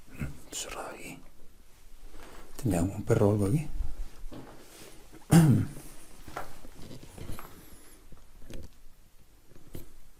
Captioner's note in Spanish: carraspeo